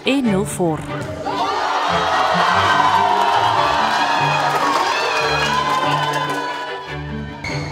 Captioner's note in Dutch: jongeren juichen en applaudiseren